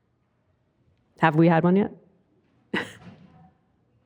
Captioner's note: laughs